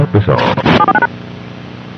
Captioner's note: glitch